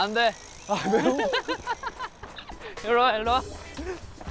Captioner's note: giggling